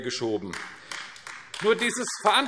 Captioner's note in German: Beifall AfD